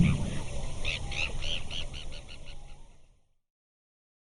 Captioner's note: bird tweeting